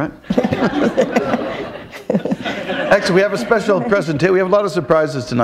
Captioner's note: laughter